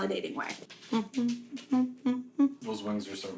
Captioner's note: humming